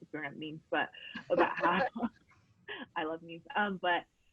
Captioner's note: both laughing